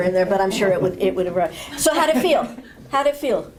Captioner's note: laughter